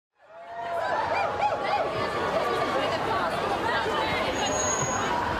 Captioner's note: audience chatter indistinctly